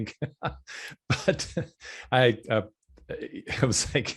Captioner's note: laughing